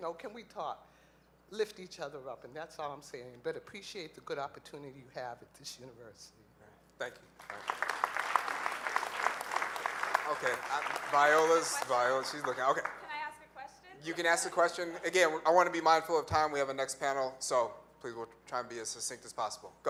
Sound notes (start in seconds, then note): 7.4 audience applauds